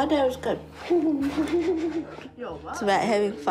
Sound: giggles

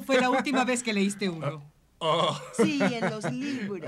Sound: women laughing

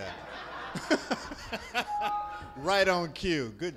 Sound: laughs

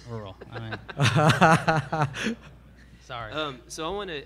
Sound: all laugh

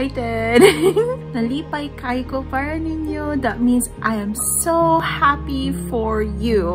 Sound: chuckles softly; in foreign language

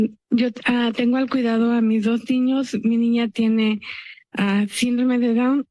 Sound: speaks in Spanish; speaking in Spanish

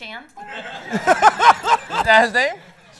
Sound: laughter

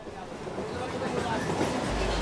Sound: train sound

